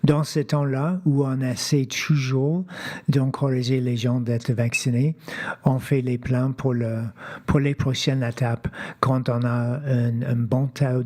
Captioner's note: speaking French